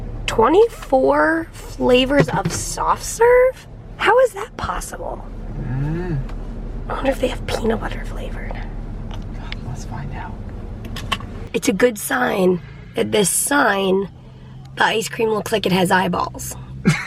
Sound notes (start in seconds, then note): 9.7 whispers